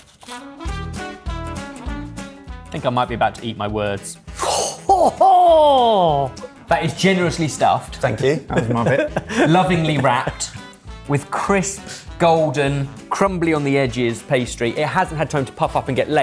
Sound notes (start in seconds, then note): 0.1 upbeat music; 4.8 laughing